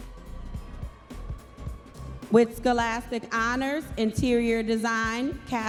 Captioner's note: audience members cheering